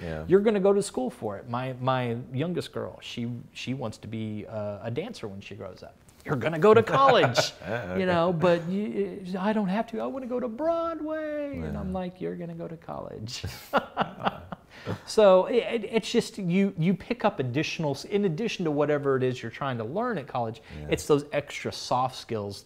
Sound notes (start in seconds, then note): 13.6 laughs